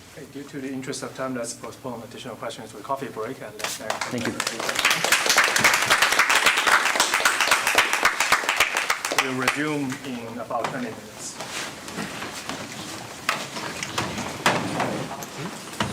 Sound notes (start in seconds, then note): 3.6 audience applauds